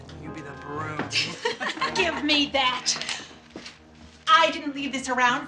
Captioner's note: laughing